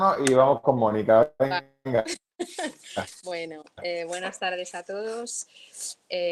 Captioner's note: laughs